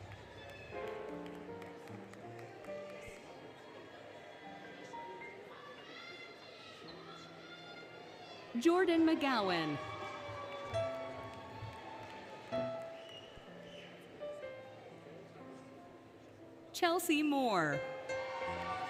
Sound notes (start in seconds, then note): 0.0 applause, Cheering, Music; 9.6 applause, Cheering, Music; 13.2 applause, Cheering, Music, Whistling; 17.8 applause, Cheering, Music